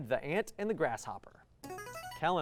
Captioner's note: buzzer